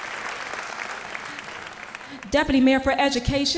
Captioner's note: applause